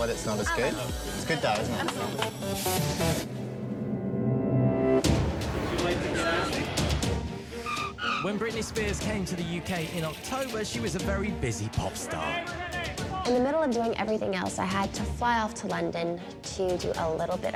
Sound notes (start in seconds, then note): 7.4 tires screeching; 12.1 paparazzi shouting